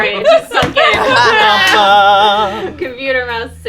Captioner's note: laughing